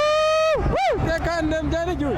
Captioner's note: cheering